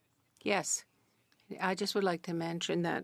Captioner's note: speaking French